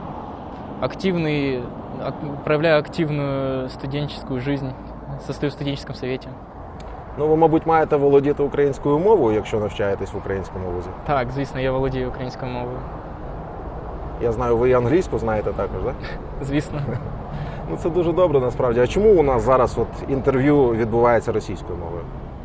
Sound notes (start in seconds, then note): 6.6 in Ukrainian